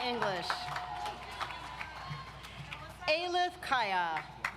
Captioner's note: audience applauds